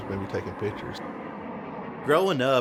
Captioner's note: jet engine